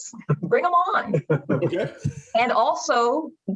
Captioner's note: laughing